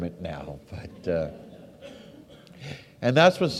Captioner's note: audience laughs